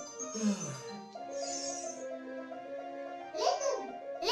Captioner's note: yawns